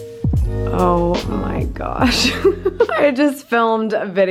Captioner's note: laughs